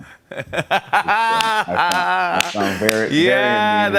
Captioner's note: laughs